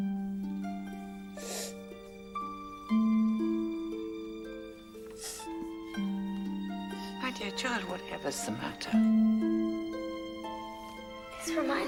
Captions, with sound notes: [sobbing] My dear child, whatever is the matter?